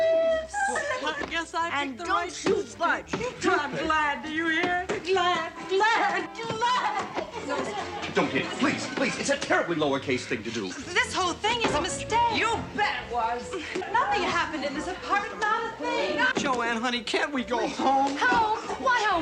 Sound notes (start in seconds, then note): 0.1 sobs